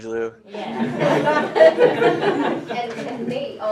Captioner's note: laughter